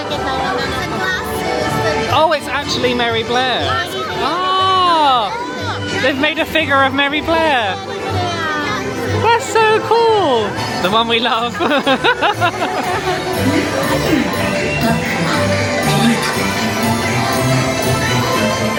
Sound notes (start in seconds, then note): 0.5 guide speaking Japanese; 12.5 laughing; 15.1 light music